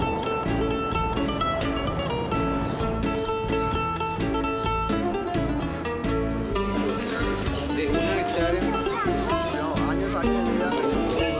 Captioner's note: laughing; upbeat Music